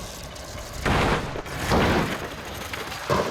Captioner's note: loud bangs